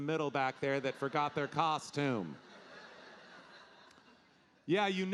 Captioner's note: audience laughing